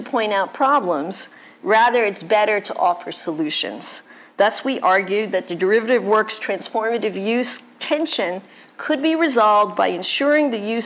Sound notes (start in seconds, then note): none